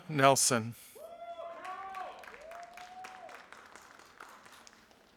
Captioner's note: audience applauding